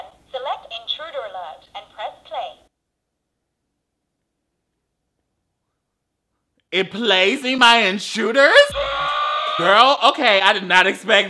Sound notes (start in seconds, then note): 9.0 recording yelling